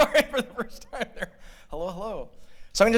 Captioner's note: laughter